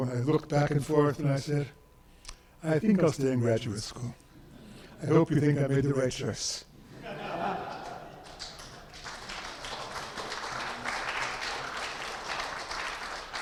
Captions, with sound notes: and I looked back and forth and I said, "I think I'll stay in graduate school." I hope you think I made the right choice. (audience applauding)